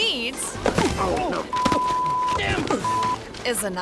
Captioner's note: thuds; beep